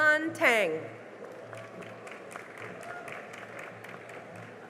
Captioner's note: cheering and applause